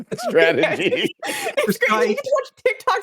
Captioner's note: laughing